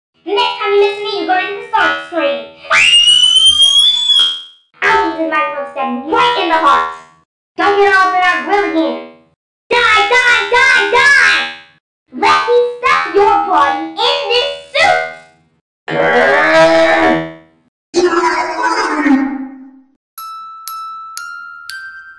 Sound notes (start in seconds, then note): 2.7 screams very loudly; 17.8 jumpscare Sound; 20.2 music Box Music